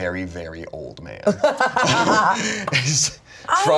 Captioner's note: laughs